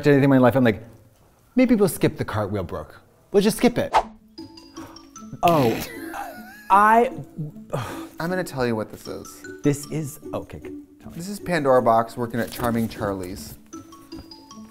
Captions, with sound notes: I'm like, "Maybe we'll skip the cartwheel, Brooke. We'll just skip it." Oh. I... [exhales deeply] -I'm gonna tell you what this is. -This is--Okay. Tell me. This is Pandora Boxx working at Charming Charlie's.